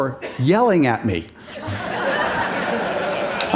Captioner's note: Laughter; 笑聲